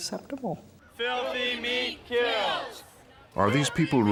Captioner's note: crowd chanting